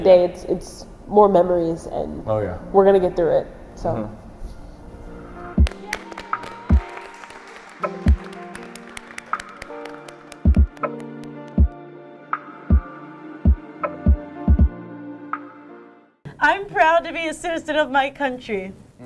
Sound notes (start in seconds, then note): 5.6 clapping; 9.6 calming music